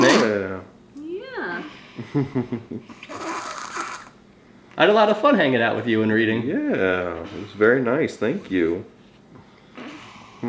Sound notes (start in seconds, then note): 2.0 dad giggles; 3.0 vocalizing